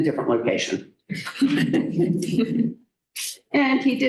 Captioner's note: laughter